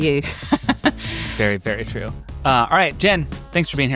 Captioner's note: laughs